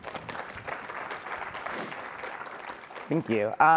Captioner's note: audience applauding